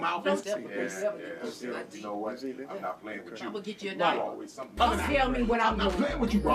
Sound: people begin chatting in the background

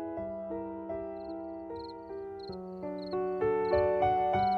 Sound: gentle music; crickets chirping

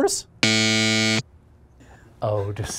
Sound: buzzer buzzes

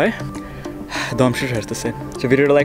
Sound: sighs

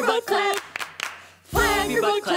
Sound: clap clap clap

